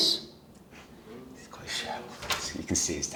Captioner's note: whispers